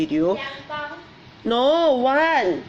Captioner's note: speaks in foreign language